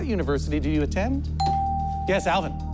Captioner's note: bell dings